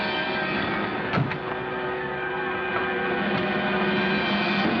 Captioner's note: car doors thud